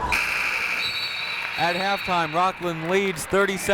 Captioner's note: buzzer